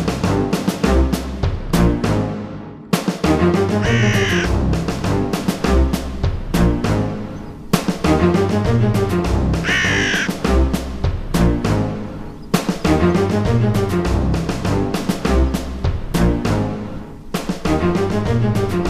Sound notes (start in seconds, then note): 0.1 dramatic music; 3.7 birds cawing